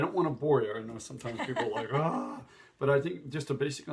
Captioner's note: sighs